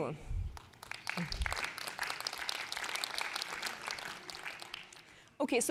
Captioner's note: applause